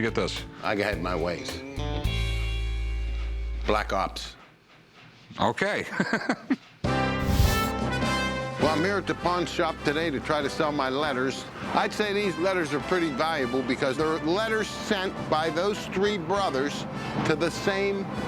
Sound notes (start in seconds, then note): 5.7 laughs